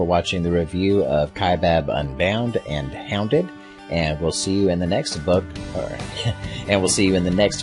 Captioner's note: laugh